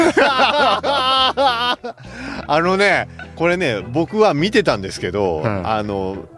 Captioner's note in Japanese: 笑い